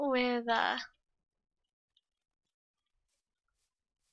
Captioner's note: silence